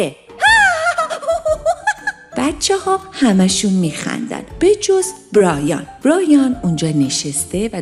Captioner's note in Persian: خنده